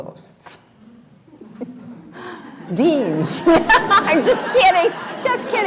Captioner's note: laughs